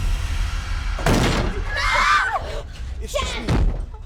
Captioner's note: screams